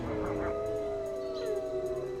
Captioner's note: howling